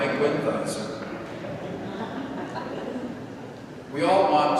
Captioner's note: congregation laughing